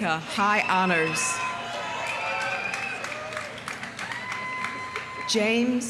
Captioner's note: audience cheering; audience applauding